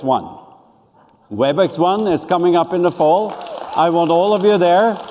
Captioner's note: applause